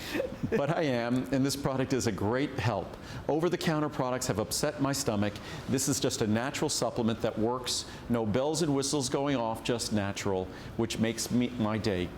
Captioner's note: laughter; laughter